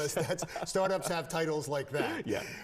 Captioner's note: laughs